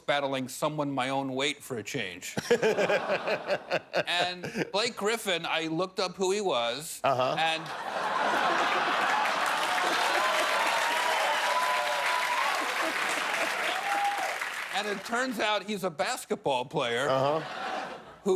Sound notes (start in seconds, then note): 2.3 laughter; 7.3 laughter; 10.6 cheers and applause